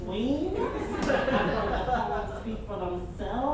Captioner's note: audience chuckles